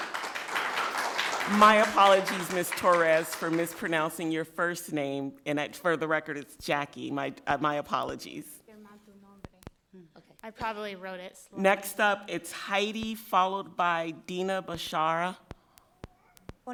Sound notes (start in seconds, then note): 8.8 speaking foreign language